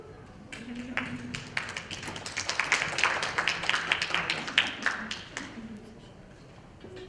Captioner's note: clapping